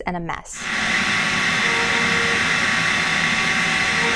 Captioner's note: loud machine